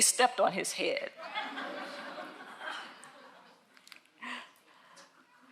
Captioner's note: audience laughs